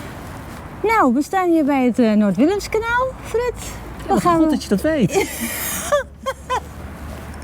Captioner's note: laughter